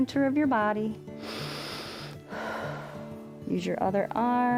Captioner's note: inhales and exhales